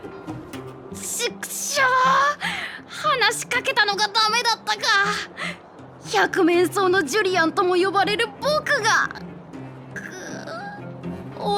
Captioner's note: sigh